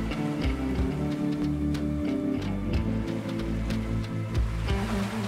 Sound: waves crashing

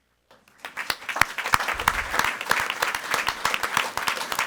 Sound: audience applauding

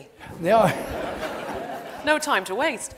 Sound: audience laughs

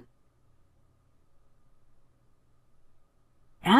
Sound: silence

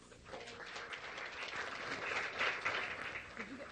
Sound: crowd claps

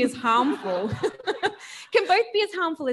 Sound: audience laughing; laughing

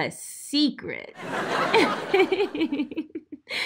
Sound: audience laughs; laughs

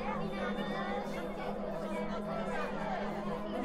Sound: student chatter

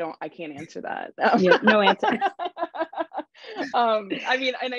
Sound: laughs

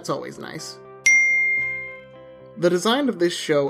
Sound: chimes

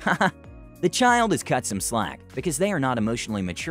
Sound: haha

